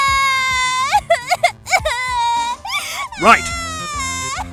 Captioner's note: sobbing